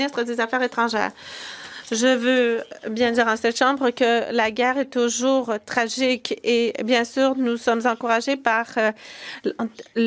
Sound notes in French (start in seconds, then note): 2.4 voix de l'interprète; 8.2 voix de l'interprète